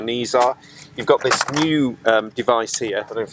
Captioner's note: fold-out table rattles